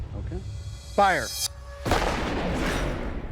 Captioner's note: gunshot